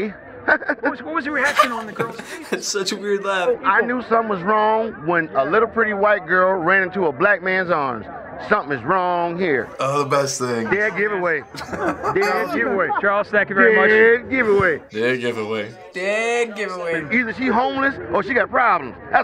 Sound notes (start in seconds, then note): 1.3 laughs; 1.3 wry laugh; 9.8 chuckling